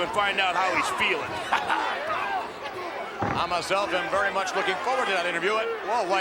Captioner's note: laugh